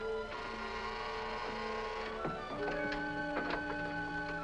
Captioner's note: buzzer rings